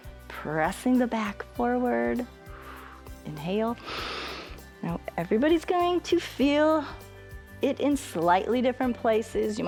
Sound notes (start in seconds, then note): 3.8 inhales